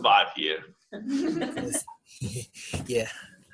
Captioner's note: laughter